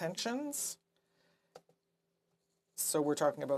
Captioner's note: speaking French